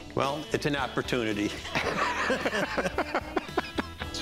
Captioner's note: laughs